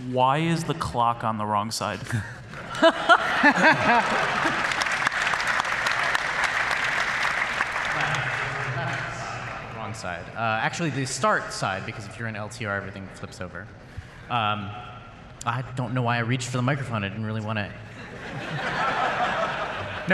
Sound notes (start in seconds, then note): 2.5 laughter